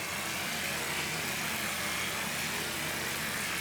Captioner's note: loud whirring